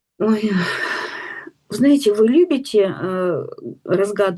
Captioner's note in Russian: вздыхает; тяжело вздыхает